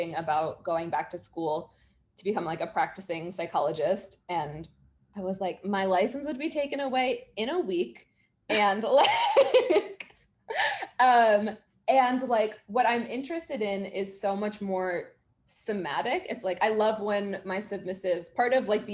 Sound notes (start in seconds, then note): 8.9 chuckling